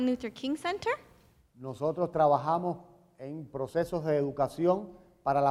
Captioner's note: speaking in Spanish